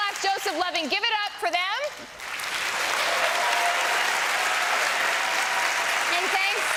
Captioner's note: cheering and applause